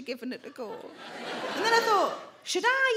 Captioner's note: audience laughing